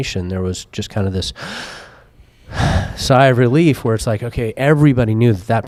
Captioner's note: deep breath